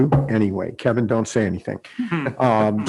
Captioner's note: laughs